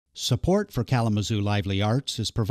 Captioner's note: voiceover